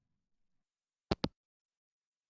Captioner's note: hangup